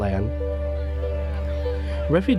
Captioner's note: crowd shouting